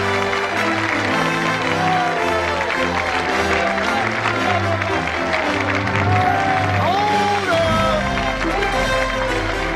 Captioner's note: Aplausos